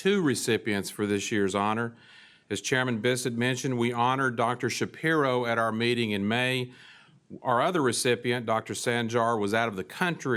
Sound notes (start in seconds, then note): none